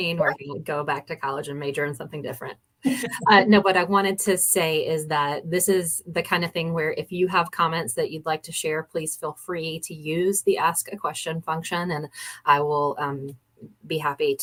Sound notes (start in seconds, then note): 2.9 laughter